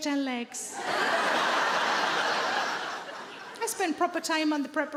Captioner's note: audience laughing